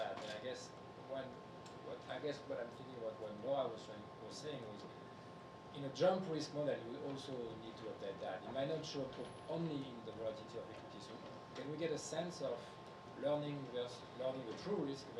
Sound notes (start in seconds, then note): 8.5 speaking faintly